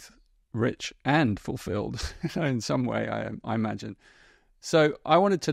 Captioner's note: chuckles